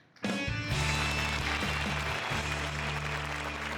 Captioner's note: applause